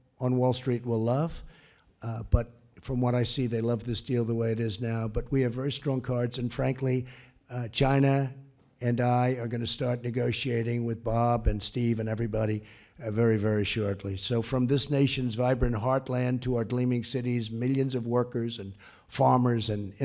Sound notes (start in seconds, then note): none